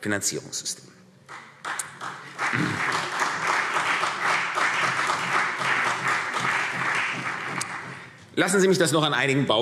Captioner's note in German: Beifall CDU und BÜNDNIS 90/DIE GRÜNEN